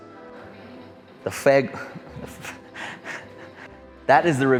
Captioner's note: laughs